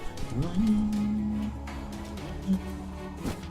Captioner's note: humming along